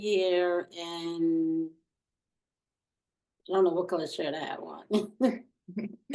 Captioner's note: chuckles